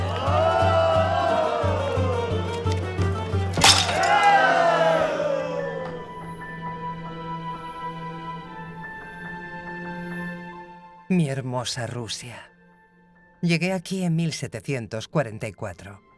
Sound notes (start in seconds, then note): 0.2 patrons cheering; 3.5 cup chatters; 3.6 men cheering; 5.2 gentle music